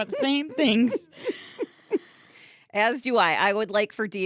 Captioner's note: laughing